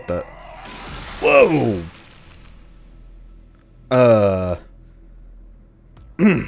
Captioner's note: clears throat